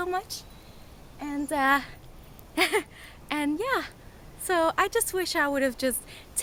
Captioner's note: laughs